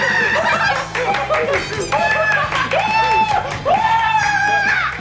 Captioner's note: Menangis sambil tengkurap